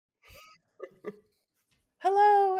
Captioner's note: person chuckling